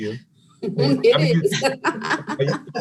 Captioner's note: panelists laughing